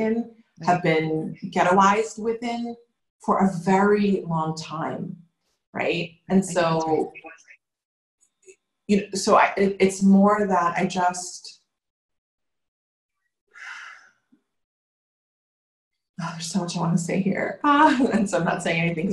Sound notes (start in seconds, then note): 13.6 sighing